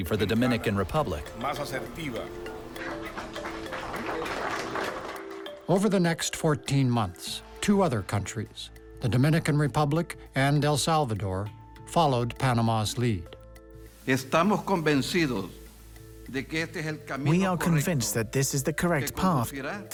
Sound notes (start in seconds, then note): 1.6 speaking Spanish; 2.8 applause; 14.1 speaking Spanish